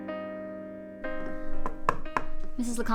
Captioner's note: hand knocking